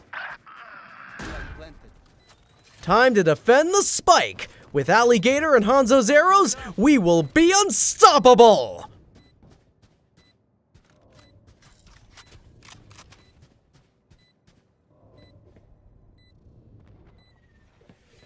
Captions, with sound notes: Time to defend the Spike! With Alliegator and Hanzo's arrows, we will be unstoppable. (beeping)